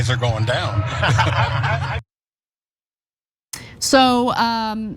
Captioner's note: laugh